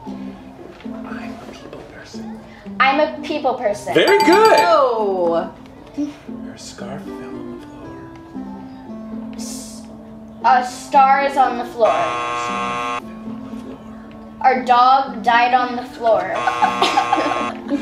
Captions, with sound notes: - I'm a people person. - I'm a people person? (bell dinging) - Very good. - Whoa. - Her scarf fell on the floor. - A star is on the floor? (buzzer buzzing) - Her scarf fell on the floor. - Our dog died on the floor? (buzzer buzzing) (laughing)